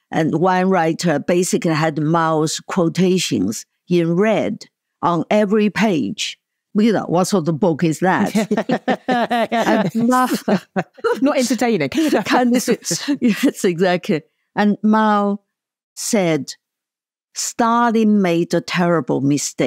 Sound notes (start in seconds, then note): 8.2 laughs